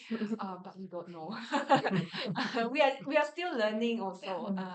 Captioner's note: everyone laughs